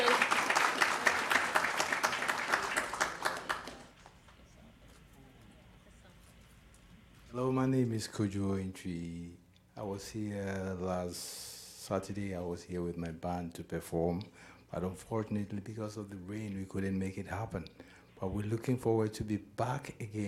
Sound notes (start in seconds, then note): 4.0 applause